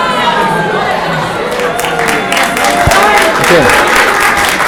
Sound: applauding

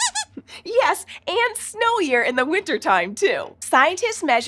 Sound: squeaks squeaking

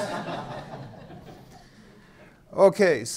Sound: audience laughing

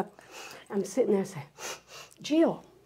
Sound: sniffing

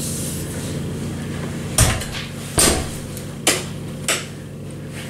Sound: door thudding; switch flicking

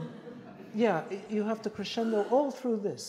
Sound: audience laughs

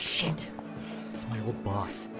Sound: footsteps

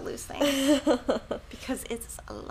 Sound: laughing

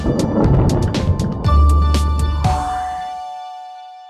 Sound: intro music; thunder

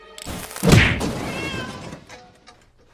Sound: crashing; pow!

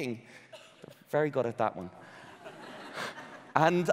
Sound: audience laughing

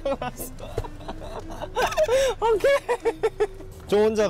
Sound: he can't breathe because of excitement

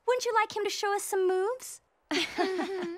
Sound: laughing

